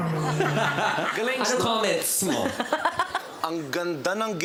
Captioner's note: laughter